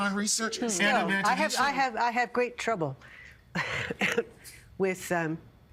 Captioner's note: coughing